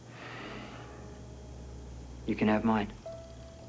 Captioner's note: sighs